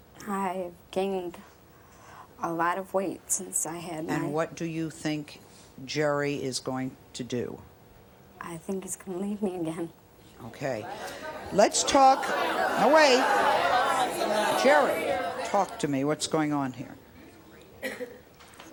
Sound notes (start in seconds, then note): 10.7 audience talking